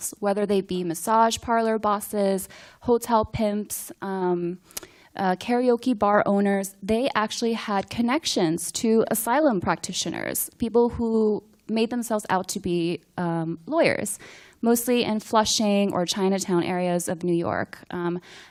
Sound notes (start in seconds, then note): none